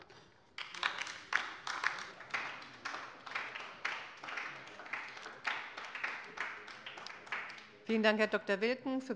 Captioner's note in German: Beifall bei der LINKEN